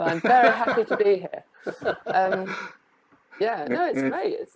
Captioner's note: laughing